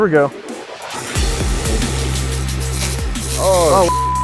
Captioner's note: laser whizzing